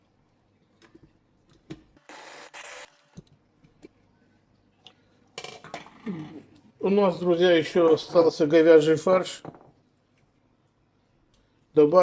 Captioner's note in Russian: откашливается